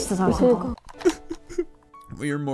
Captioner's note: crying sounds